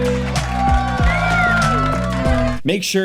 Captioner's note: sensual music; crowd cheering and clapping